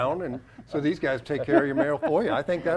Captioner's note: laughs